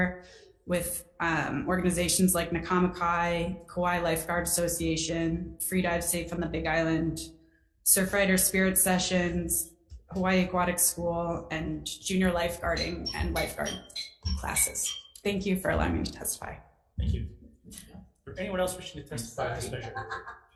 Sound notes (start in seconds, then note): 12.3 alarm chiming